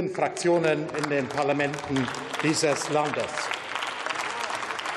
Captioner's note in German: Beifall